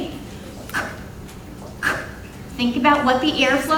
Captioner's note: imitating /k/ sound